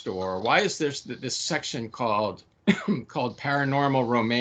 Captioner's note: coughing